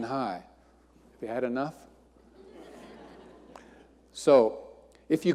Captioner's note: audience laughing